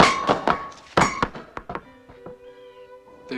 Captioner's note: bang